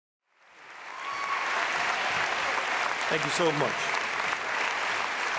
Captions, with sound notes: (audience applauding) (audience member cheers) - Thank you so much.